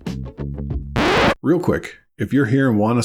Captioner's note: record scratch